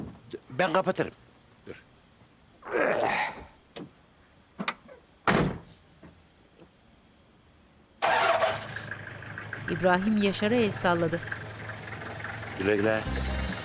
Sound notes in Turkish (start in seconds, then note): 5.2 Kapı kapanma sesi